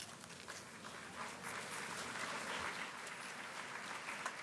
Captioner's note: applause